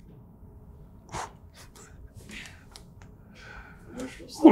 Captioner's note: exhales sharply